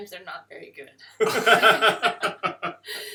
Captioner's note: laughter